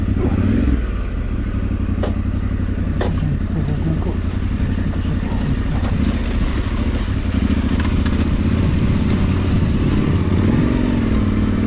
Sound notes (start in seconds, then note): 2.8 mumbles with exertion